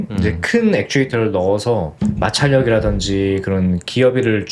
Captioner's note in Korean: 목을 가다듬음